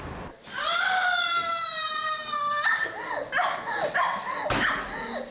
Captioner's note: screaming and crying